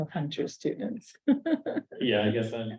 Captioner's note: chuckling